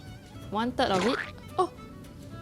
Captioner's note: splat